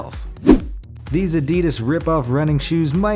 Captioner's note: air whooshes